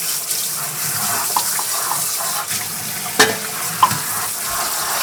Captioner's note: water keeps pouring